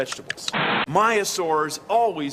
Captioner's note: static